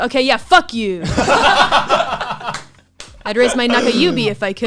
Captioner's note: laughs